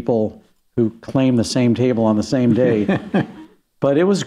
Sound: laughs

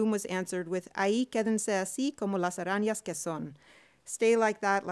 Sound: speaking spanish

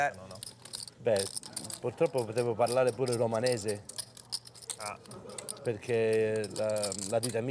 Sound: speaking in Italian

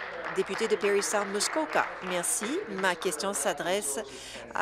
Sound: applause

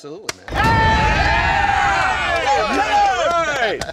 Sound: cheering

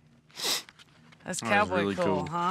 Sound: sniffs

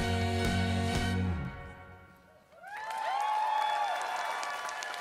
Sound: crowd cheering

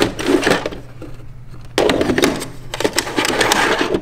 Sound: tapes clattering

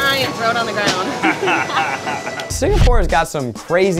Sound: laughs

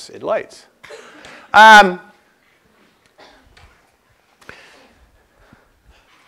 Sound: cough

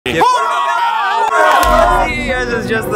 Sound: cheering

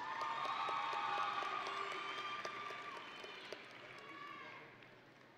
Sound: audience and graduates cheering

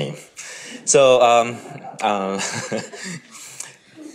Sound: all giggling

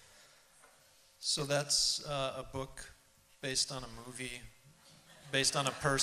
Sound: laughter

